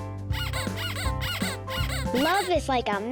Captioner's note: squeaking